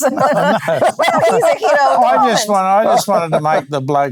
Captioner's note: laughing